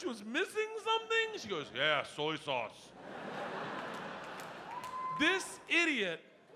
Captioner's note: audience laughing